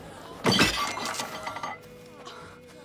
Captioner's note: crockery clattering